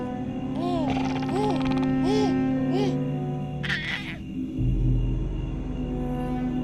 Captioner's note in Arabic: هدير فضائي; هديل طفل